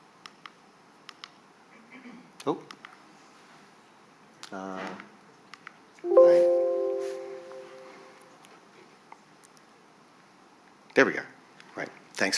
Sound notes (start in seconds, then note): 4.2 mouse clicks; 6.0 notification sound